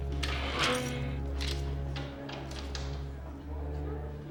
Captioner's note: door clanks